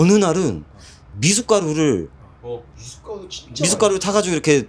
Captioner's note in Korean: 콧방귀